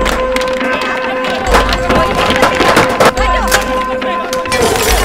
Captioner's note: indistinct crowd chaos continues